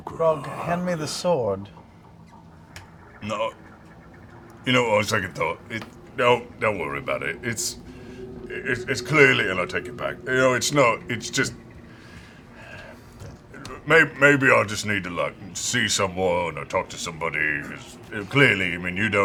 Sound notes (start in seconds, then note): 3.1 pained